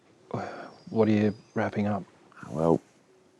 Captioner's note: sighs